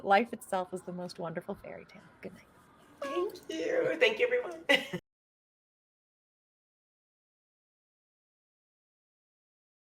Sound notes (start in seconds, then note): 4.7 chuckles